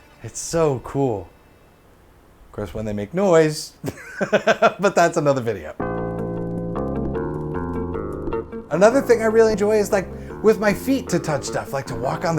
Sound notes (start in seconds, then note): 3.8 laughs